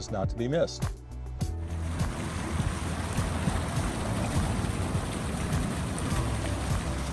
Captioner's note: upbeat music; water flowing